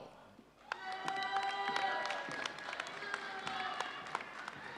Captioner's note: audience cheering